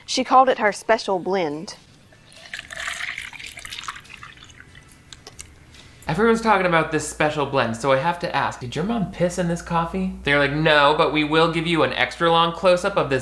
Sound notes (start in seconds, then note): 2.0 coffee gushes